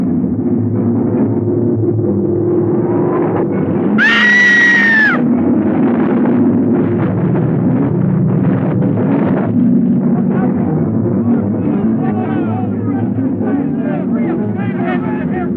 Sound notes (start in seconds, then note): 3.9 screaming; 11.6 people shouting